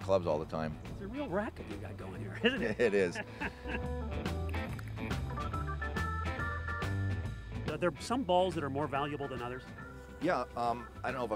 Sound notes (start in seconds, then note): 2.3 laughing